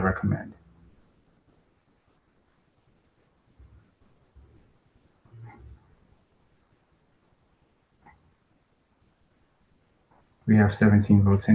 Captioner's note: pause